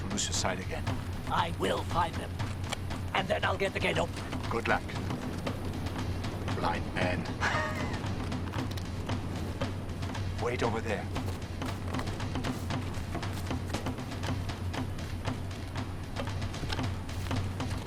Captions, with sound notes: to lose your sight again. - I will find them and then I'll get the gate open. - Good luck, blind man. (laughing) Wait over there. (dramatic tribal drumming)